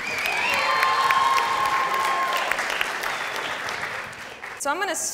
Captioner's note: audience cheers and applauds